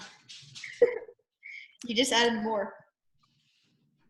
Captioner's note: laughs